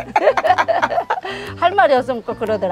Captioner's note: both laughing